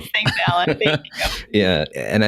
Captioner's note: laughter